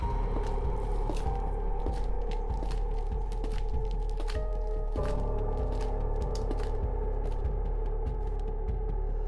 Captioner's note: clicking of heels Koi... Koi... Koi